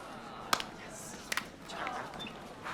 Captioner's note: crowd grumbling; claps